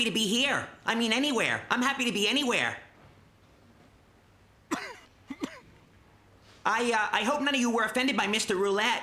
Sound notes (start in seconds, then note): 4.6 coughing